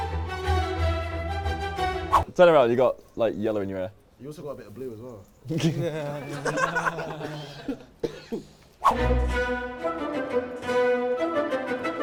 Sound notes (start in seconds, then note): 5.5 laughter; 8.9 classical music